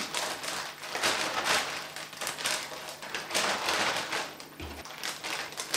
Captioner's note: rustle scrungle